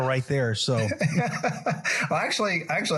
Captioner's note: laugh